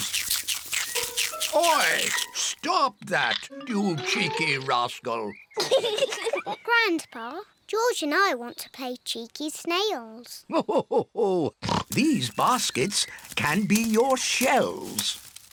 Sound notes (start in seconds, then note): 5.5 both laugh; 11.9 laughs